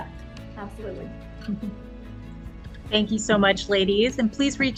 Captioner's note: laughs